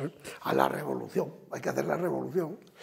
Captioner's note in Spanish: Ríe